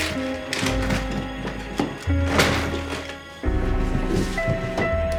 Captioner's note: objects clattering